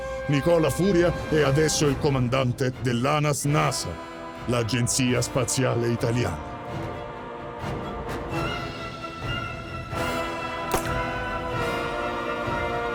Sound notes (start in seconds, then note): 7.4 tense action music continues; 10.7 gunshot